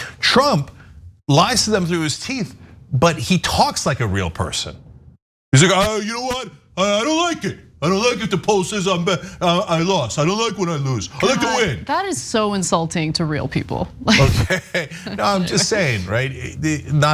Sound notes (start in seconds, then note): 14.0 laugh; 14.1 chuckle